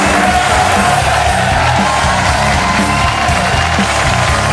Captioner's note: audience clapping